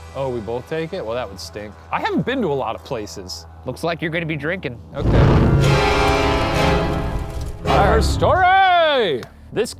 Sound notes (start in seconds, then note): 5.0 intense eerie music; 5.0 smoke whooshing